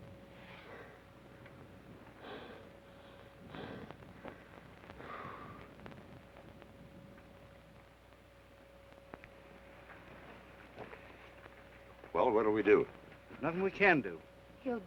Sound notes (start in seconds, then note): 0.3 Trask breathes heavily